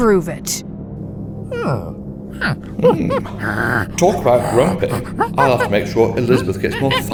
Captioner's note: ape noises